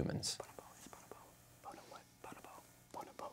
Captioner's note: whispers